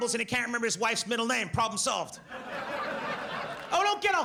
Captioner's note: audience laughs